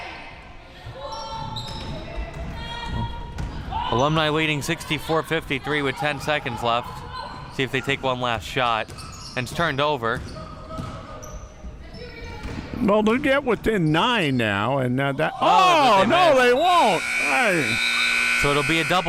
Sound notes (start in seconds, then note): 16.2 buzzer sounding; 17.9 whistle chirping